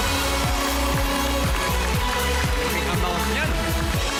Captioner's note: applauding, cheering